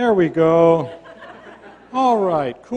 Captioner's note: laughter